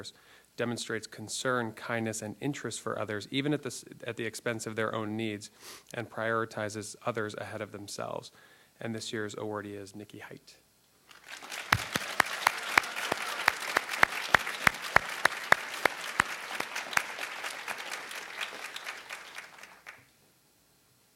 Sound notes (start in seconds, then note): 12.1 cheering